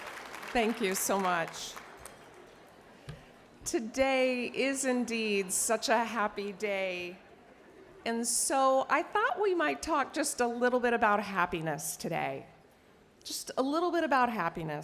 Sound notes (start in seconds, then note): 3.2 cheers and applause